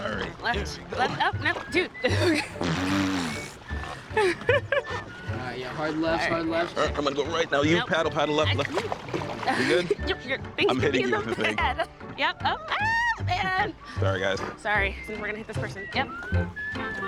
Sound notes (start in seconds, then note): 2.0 blows raspberry; 4.1 giggling